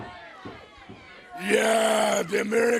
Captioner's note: crowd chatter